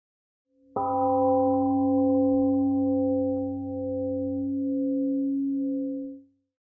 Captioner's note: temple gong rings and fades